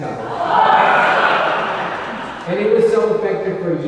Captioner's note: audience laughing